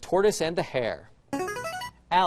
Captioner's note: buzzer